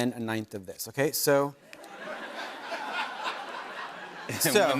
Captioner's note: laughter